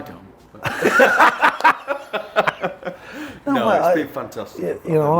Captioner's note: both laughing